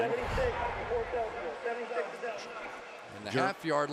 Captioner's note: swoosh